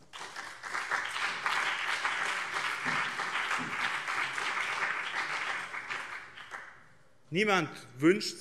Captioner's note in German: Beifall BÜNDNIS 90/DIE GRÜNEN und CDU